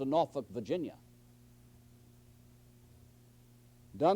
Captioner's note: silence